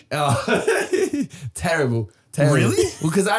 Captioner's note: Harry laughing